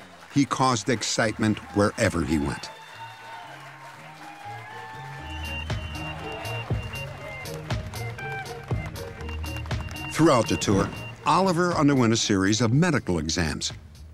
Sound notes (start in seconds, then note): 3.2 crowd cheering